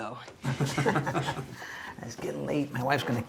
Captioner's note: laughs